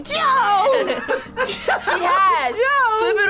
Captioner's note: React laughs